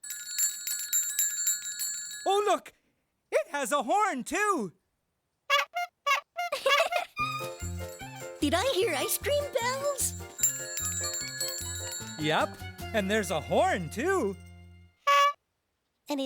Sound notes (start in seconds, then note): 9.3 bells ringing; 15.0 horn honking